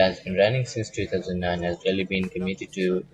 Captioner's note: Vietnamese